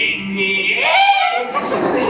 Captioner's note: yelps; audience laughs